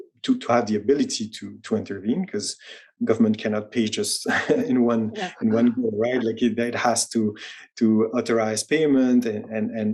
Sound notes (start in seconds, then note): 4.2 chuckles